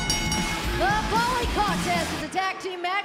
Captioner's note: bell ringing